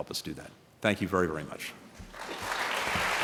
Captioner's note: applause